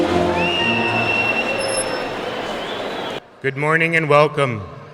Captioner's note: audience whistling